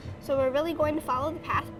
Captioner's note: sound of a heart beat